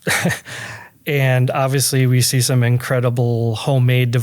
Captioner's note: laughs